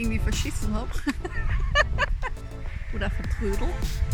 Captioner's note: laughter